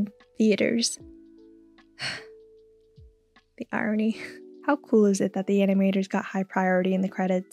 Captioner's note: sigh